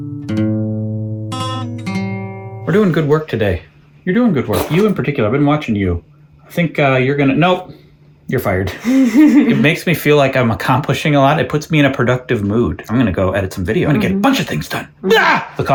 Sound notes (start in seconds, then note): 8.7 giggles